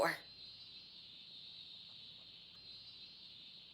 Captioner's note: painfully awkward moment as cicadas buzz